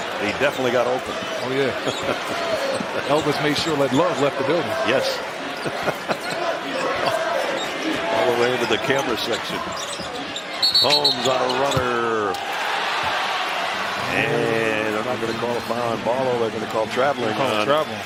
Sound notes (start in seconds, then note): 5.4 laughing; 10.6 whistle